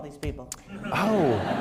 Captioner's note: laughter